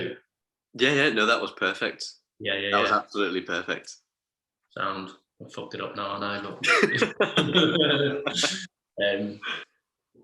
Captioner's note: laughing